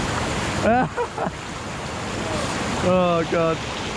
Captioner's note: laughing